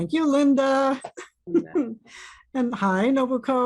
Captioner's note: chuckles